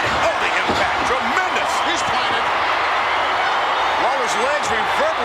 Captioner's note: audience cheers